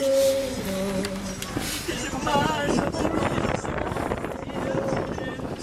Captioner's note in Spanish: Llantos, sollozos